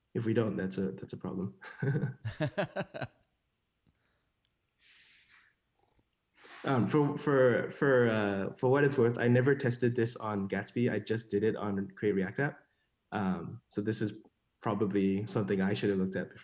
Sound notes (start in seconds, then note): 1.7 laughing